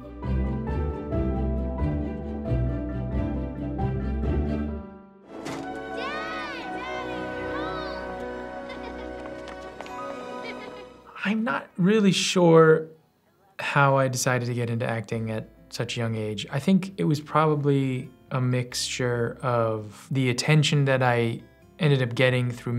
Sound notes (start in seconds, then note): 0.1 happy music continues; 10.1 laughs